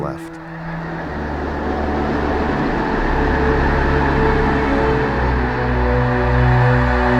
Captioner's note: birds taking off